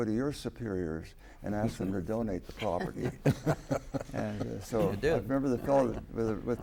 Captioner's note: laughter